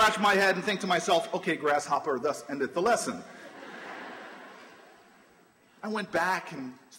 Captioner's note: laughter